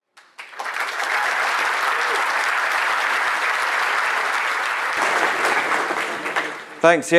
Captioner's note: applause